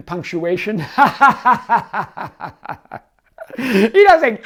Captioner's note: laughs